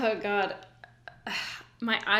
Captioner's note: sighs